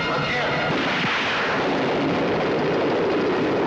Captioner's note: gun fires